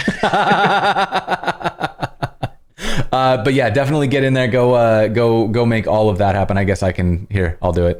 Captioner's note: laughter